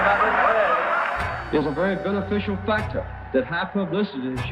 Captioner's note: cheers